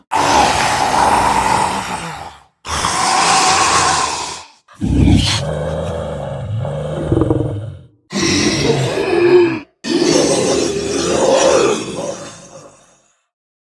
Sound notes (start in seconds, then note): 2.3 snarling; 6.3 growling; 9.6 gasping and breathing